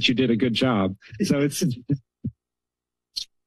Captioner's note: laughs